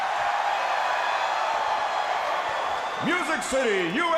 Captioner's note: crowd cheering; crowd chatter